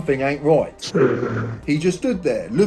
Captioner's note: distorted breathing